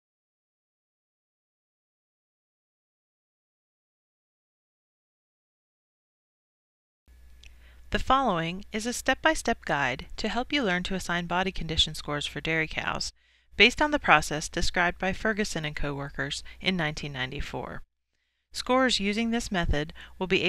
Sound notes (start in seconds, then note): 8.1 voiceover